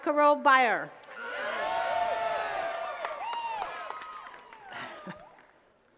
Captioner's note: attendees cheering and clapping